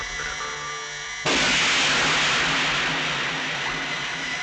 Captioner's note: gun fires